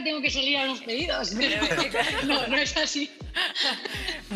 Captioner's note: laughter